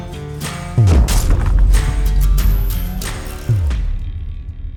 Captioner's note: upbeat music continues; logo thudding